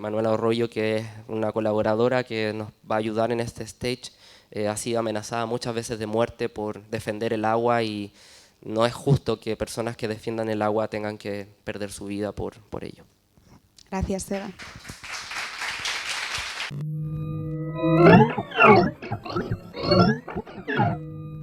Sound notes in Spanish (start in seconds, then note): 14.3 aplausos; 16.7 logo sonoro